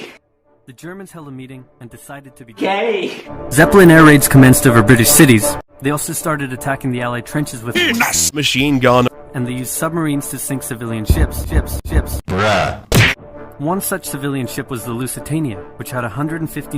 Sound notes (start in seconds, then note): 12.9 smack